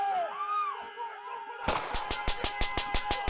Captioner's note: group shouts; guns firing; rapid gunfire; shouts